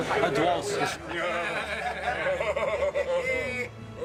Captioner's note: all laughing